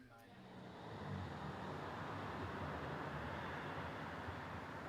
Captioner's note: traffic noise